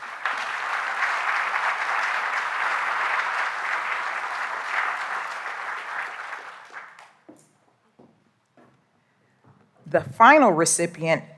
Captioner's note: applause